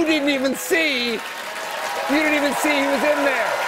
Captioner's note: cheers and applause